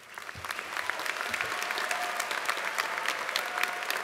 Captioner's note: applause